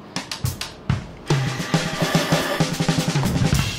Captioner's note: whirring